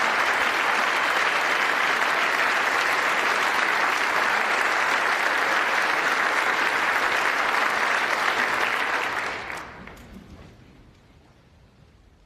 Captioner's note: applause